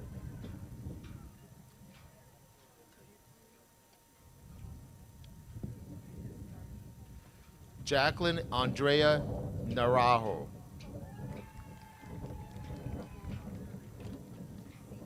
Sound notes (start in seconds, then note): 11.0 crowd cheers